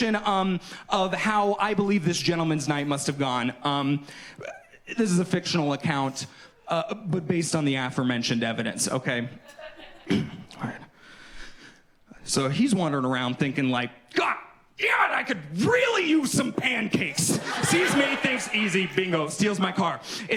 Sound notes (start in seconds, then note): 10.0 clears throat